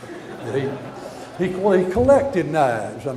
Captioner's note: audience laugher